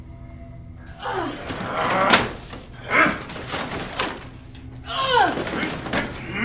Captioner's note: Shaina and Vincent grunting